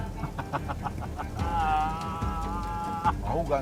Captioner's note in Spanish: Risas